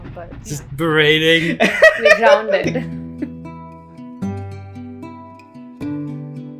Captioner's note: laughter